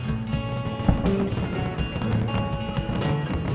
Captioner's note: fireworks boom